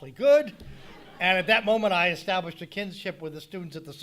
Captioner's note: audience laughing